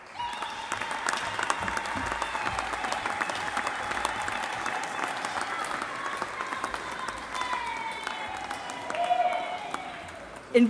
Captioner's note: applause